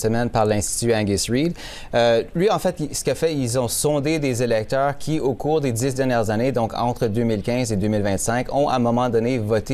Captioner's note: speaking french